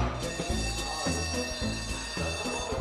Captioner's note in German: Straßenbahn klingelt